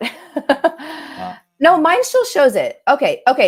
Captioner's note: laughter